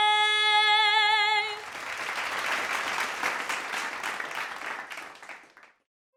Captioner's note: applause